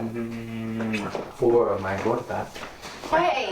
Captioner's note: speaking in a foreign language